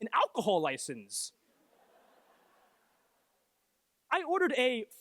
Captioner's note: laughter